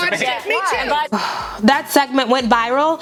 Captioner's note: sighs in exasperation